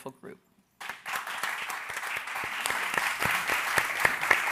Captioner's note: audience applauding